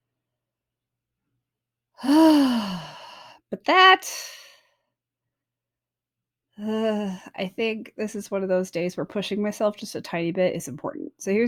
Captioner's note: sighs